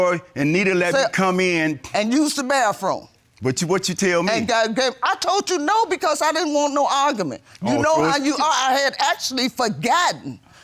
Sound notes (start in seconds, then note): 4.4 stammers